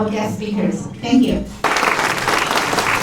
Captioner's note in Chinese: 掌声